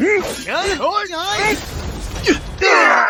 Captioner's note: screams